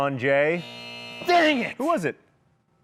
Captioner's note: buzzer